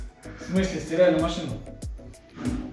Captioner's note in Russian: говорит что-то смешное по-немецки